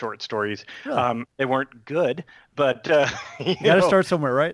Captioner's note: chuckles